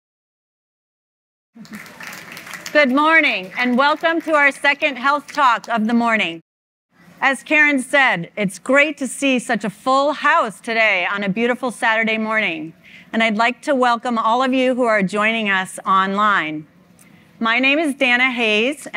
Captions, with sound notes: (audience applauds) - Good morning and welcome to our second Health Talk of the morning. As Karen said, it's great to see such a full house today on a beautiful Saturday morning, and I'd like to welcome all of you who are joining us online. My name is Dana Hayse,